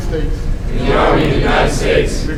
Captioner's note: commissionees repeat